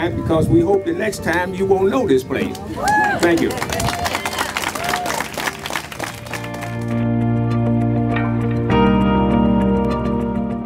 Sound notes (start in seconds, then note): 2.5 crowd applauding; 6.4 lively music